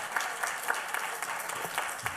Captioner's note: applause